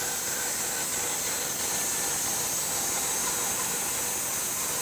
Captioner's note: saw humming continues